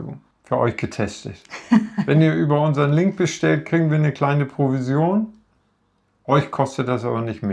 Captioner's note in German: gelächter